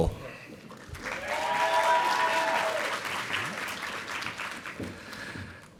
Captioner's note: audience applauding